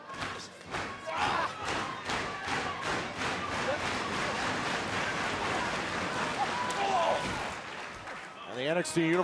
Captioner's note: crowd cheering